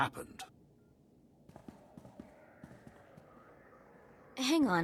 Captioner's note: footsteps